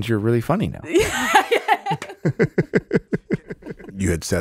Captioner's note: laughs